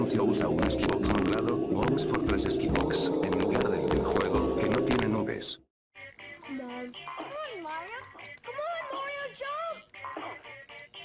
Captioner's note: laughs